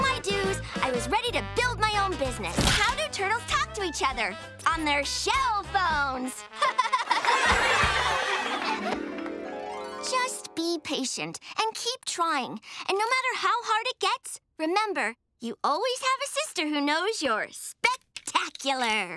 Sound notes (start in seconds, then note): 6.6 crowd laughing; 6.6 laughing